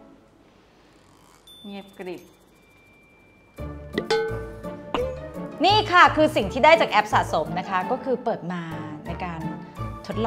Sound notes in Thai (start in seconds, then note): 1.3 เงียบกริบ